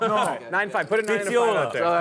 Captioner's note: players laughing